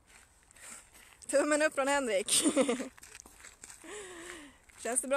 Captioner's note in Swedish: Skrattar